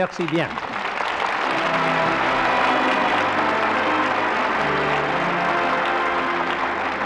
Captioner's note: applause